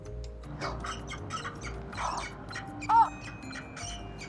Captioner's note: gasps; chick cheeps